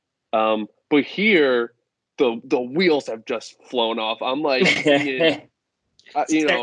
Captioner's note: laughter